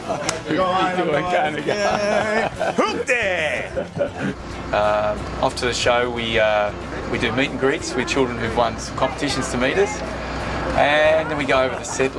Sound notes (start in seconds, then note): 1.6 laughs